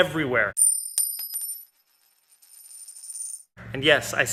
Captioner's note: coin clanging